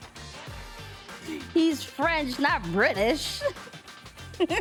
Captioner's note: laughing